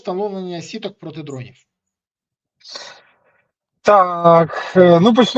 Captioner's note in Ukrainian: сопіння